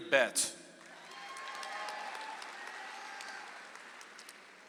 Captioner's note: audience applauds